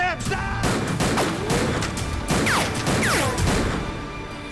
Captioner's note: gun fires